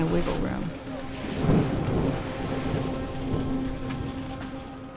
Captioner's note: thunder rumbles